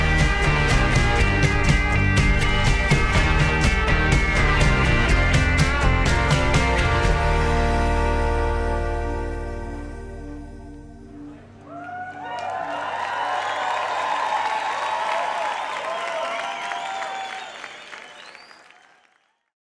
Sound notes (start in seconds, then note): 11.2 audience cheering